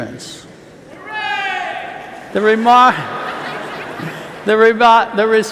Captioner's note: cheer